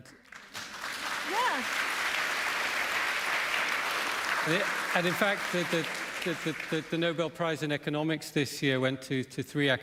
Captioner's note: applause